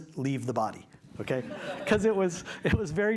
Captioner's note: laughter